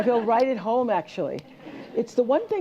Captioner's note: laughter